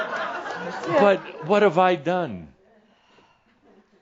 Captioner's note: some chuckles